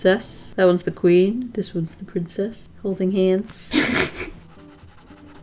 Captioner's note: chuckle